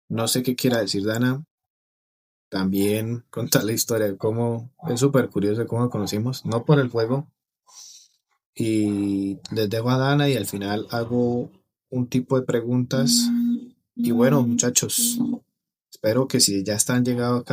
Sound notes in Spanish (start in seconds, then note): 7.7 resoplido